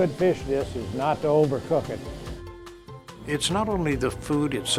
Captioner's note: pan sizzling